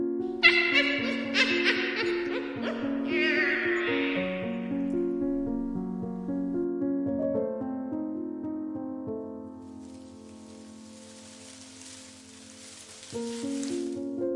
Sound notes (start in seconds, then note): 0.4 sinister Laughter; 9.6 bush Leaves Rustling